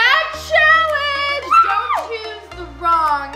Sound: screams

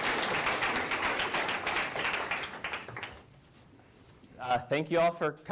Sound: clapping

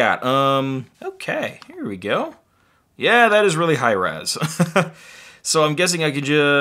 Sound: laughs

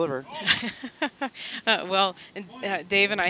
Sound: laughing

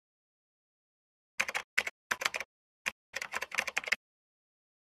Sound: keyboard tap

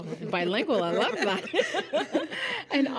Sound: laughing

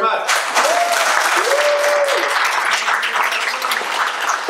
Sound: audience applauding

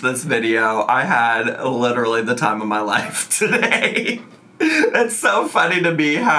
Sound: laughs

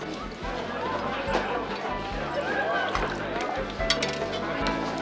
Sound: people chattering

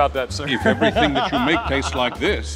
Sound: laughs

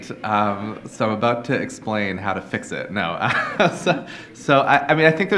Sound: laughs

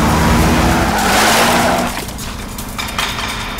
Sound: tires screeching

